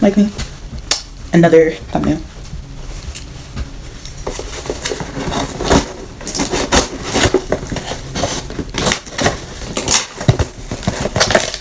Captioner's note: opening the Package sounds